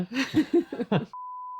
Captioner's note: laughing